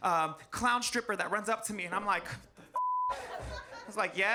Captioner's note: beep